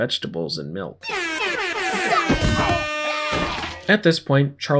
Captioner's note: airhorns